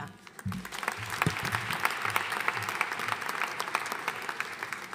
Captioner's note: audience applauding